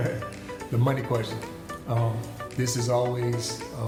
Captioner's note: chuckles